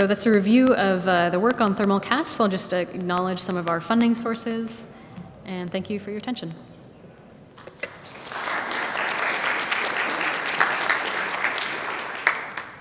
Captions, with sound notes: That's a review of the work on thermal casts. I'll just acknowledge some of our funding sources, and thank you for your attention. (audience claps)